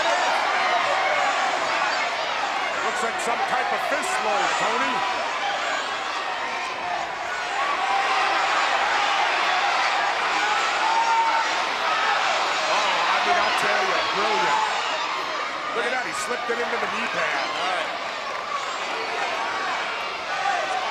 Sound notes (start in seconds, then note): 7.5 crowd chattering; 16.4 presenter speaking faintly off mic